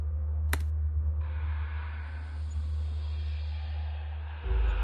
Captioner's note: keyboard clacking; ghosts whispering